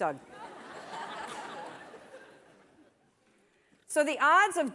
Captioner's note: laughter